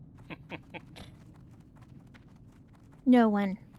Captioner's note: laughing